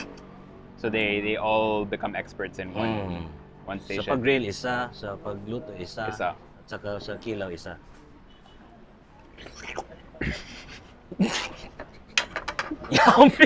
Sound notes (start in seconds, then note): 11.0 chuckles